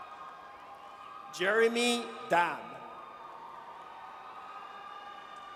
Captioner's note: audience cheers